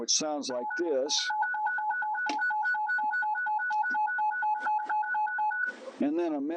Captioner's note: alarm bells playing